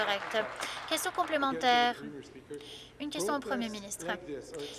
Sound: applause

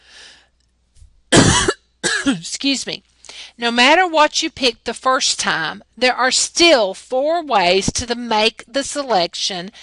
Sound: cough

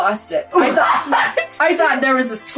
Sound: laughs

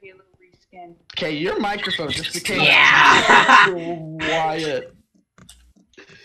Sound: rest of the group exclaiming at this occurrence

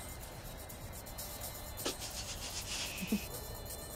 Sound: chuckling

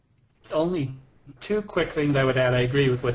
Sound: voiceover

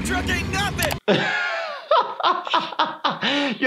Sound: laughing

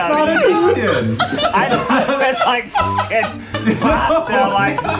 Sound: laughing

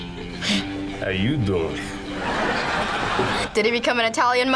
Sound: audience laughs

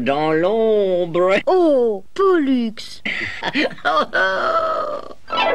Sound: laughs

